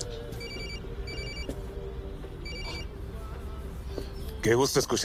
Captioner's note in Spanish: Suena el celular